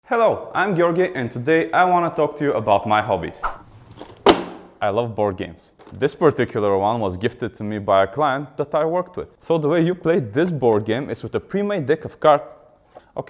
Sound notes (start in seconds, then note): 3.4 swish; 4.0 clunk